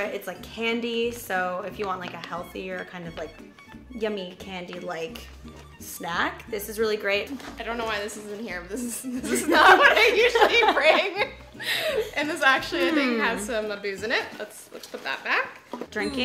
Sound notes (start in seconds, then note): 11.2 laughing